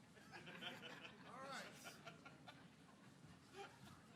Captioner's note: laughing